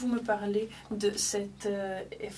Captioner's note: speaking French